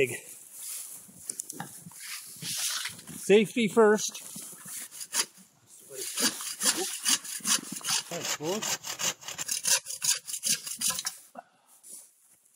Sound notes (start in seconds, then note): 5.9 sawing sounds